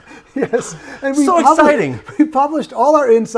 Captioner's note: both laughing